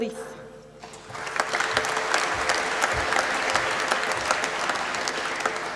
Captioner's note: applause